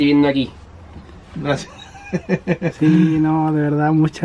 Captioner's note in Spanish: risas